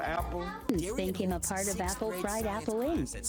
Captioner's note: computer Voice